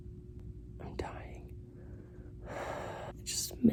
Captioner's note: heavy sigh